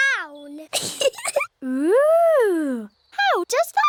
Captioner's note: giggles